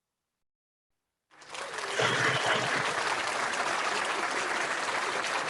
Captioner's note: crowd applauds